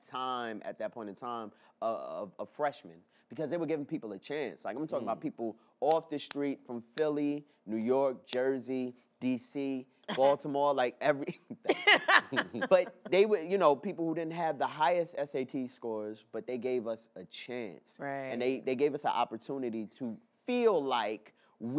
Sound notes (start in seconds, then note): 11.3 chuckles; 11.6 laughs